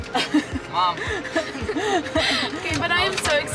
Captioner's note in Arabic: أمي تضحك